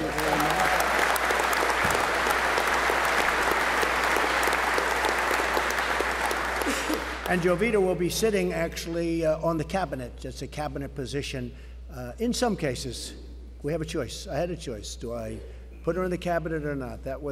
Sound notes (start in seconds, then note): 6.3 applause